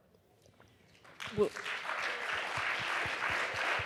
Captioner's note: applause